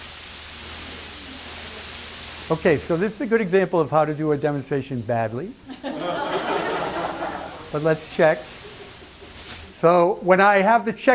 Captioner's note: laughter